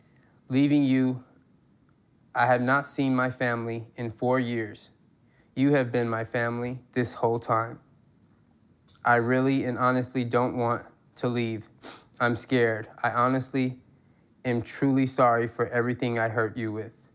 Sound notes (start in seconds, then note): none